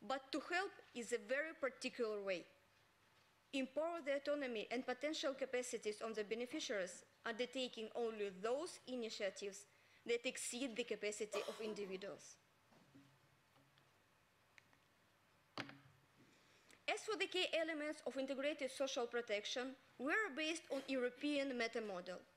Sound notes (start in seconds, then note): 12.2 silence